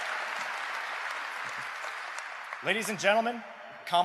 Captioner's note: applause